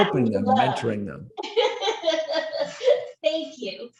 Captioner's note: laughs happily